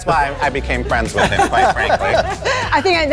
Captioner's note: laughing